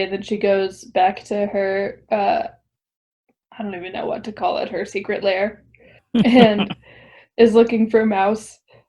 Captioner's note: laughs